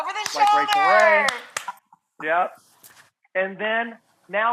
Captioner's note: clapping